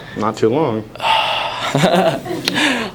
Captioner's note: sighs; laughing; then laughs